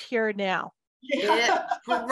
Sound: laughs

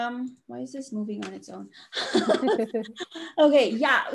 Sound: both laugh

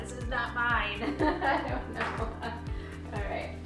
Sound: laughing

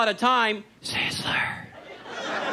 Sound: whispering; audience laughs

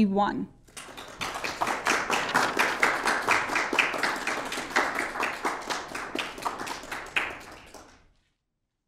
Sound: applause

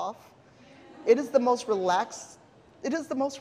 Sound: audience laughing

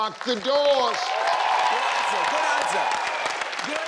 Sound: audience cheers

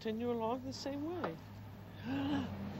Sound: gasp

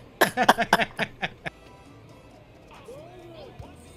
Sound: laughing

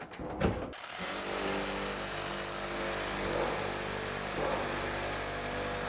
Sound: power tool buzzing

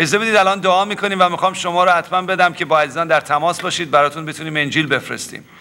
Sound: speaking in foreign language

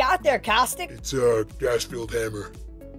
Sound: voice tone change

